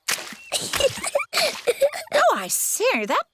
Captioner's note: giggles